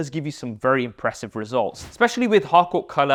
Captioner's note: air whooshes